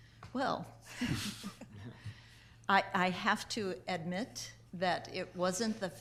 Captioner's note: chuckling